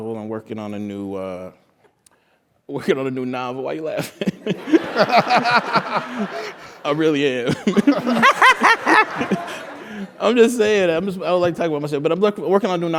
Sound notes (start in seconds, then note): 4.3 laugh